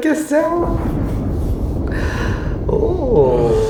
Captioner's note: thunderclap